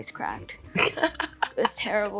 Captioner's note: Catherine chuckles